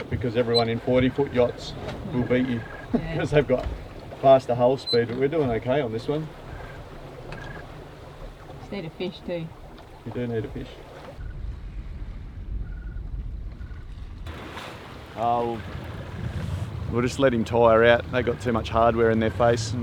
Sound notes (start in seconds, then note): 7.2 water rushing; 11.9 water rippling